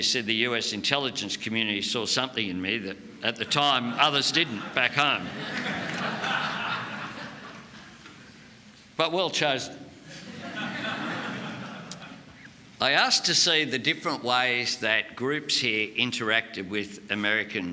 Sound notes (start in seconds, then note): 5.6 laughter